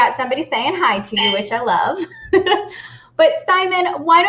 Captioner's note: laughs